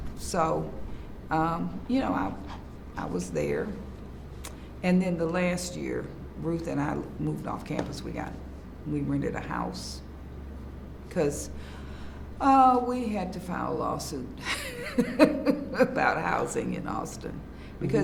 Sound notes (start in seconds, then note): 14.5 laughs